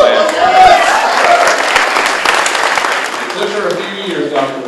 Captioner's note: applause